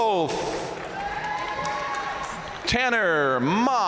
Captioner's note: audience cheering and applauding